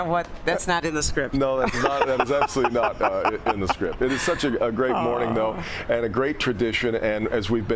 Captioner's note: laughter